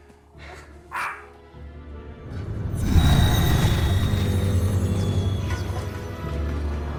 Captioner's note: shadowy orchestral music; dog barking